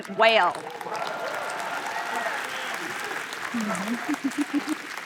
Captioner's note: applause